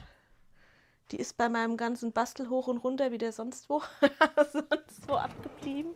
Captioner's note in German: gelächter